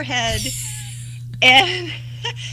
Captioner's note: laughter